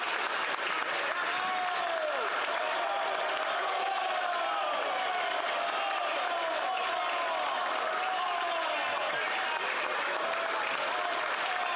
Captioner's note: applause